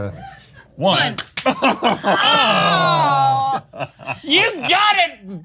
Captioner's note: laughing and groaning